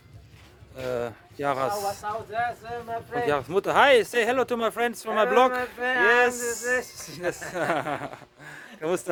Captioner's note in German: gelächter